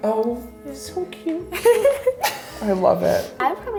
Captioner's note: laughing